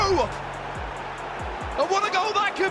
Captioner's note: fans cheering